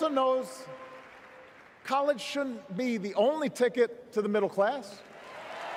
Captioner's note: cheers